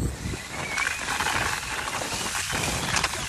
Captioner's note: skis zipping